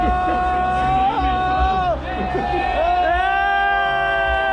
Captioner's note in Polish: krzyk